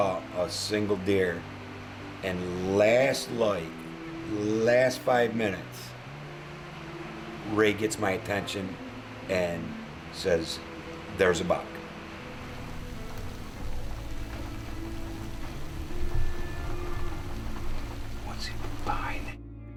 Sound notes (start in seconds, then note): 11.8 slow violin music; 12.8 rain falling